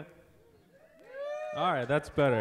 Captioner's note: audience applauds